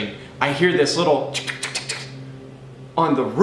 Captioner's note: cat scratching